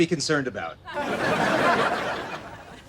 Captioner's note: laughs